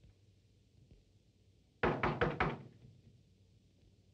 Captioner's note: knocking